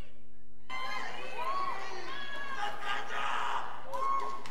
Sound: graduates cheering; student screaming

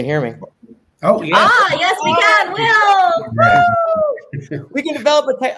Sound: cheering

